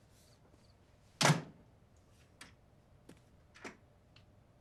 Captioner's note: door slams